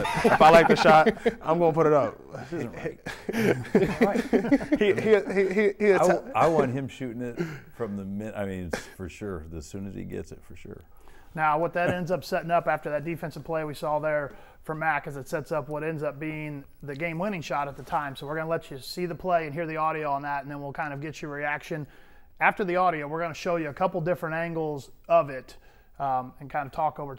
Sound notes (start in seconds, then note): 4.8 laughing